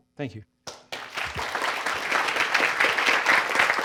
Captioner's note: audience applause